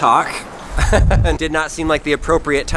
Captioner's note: laughs